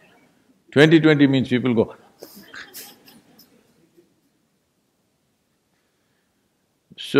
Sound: laughs

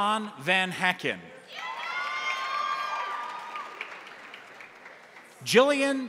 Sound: crowd cheering; crowd applauding

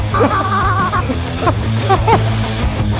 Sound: electric guitar music; screaming; electric guitar music

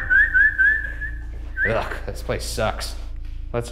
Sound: whistles

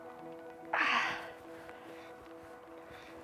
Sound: grunts

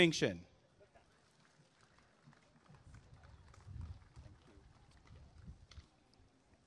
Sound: applause and cheering

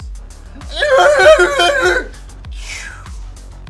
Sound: unintelligible but majestic war-cry

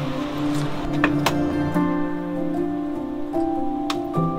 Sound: door clicks

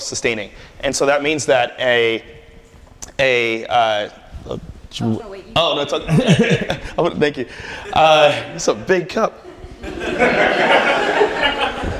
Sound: laughter

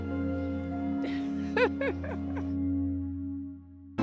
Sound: chuckles

